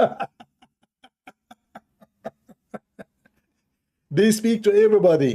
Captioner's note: Ketawa